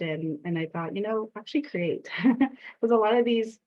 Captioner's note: chuckling